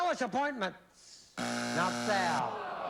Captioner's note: buzzer